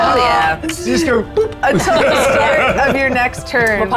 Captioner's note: players laughing